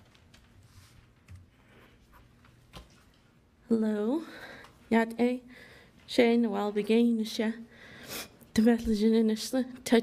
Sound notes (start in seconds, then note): 5.1 speaking foreign language